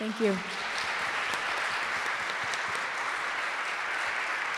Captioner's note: audience applauds